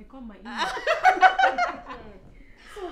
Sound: laughter

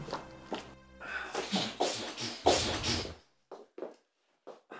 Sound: imitating drums

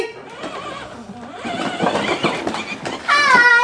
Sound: car engine whirring

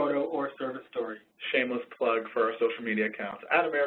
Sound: voiceover

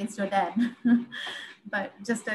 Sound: chuckles

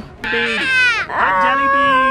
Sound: screaming

